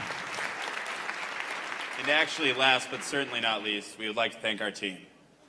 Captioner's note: applause